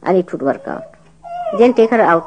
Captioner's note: baby starts crying